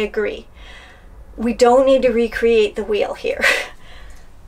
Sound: laughs

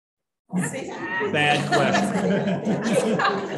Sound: laughter

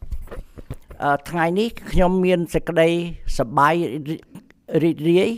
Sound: speaks in Khmer language

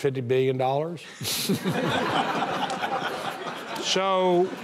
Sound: audience laughing

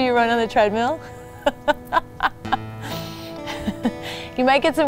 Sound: laughs

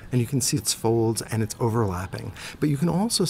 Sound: voiceover

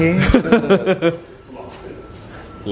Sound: group laughing

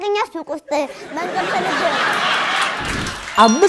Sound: laughter

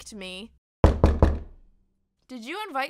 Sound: knocking

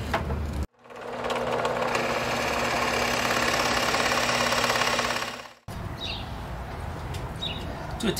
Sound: drill noise

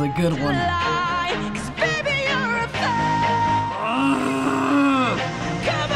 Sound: teeth clenched; grunting in distress

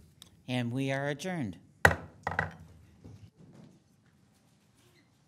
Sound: gavel banging

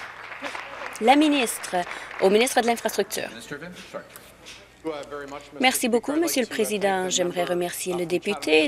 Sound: applause

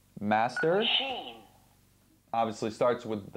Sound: computer voice

